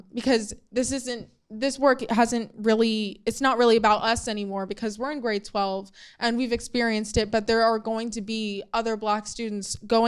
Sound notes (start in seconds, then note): none